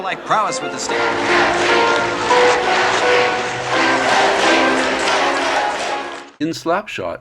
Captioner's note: Loud chanting "Let's Go Chiefs" and organ music